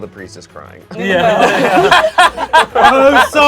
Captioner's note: everyone laughs